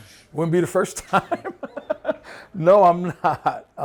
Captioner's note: laughs